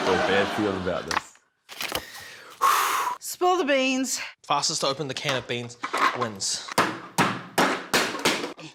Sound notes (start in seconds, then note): 2.0 exhales firmly; 6.8 clang! clang! clang!